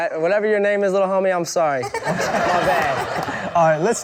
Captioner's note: laughing